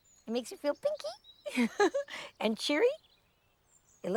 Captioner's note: chuckling